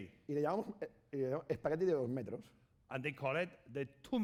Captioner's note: speaking spanish